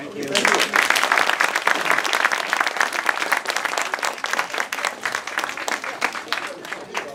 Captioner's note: applause